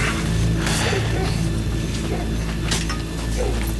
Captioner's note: dramatic music; dog barking